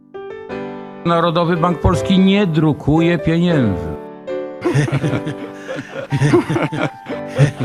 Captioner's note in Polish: śmiech